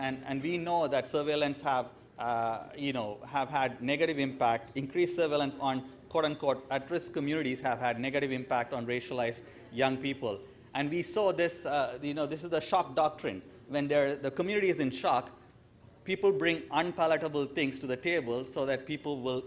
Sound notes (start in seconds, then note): 12.4 speaker off mic